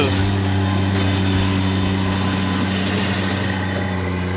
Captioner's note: engine revving